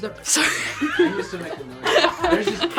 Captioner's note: laughs